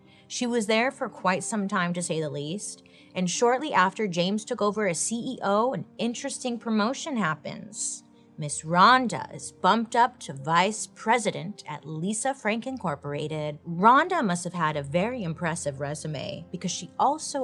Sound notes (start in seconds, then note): none